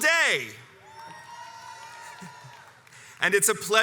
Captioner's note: crowd cheers